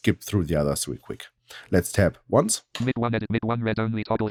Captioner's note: automated voice